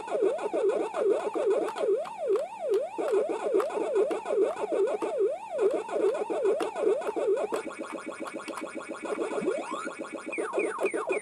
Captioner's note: Pac-Man noises